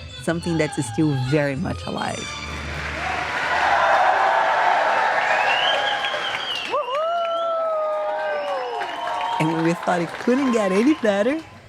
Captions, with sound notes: Something that's still very much alive. [cheers and applause] Whoo-hoo! And when we thought it couldn't get any better,